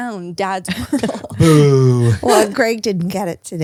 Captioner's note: laughs